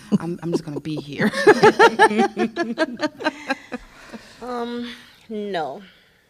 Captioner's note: laughter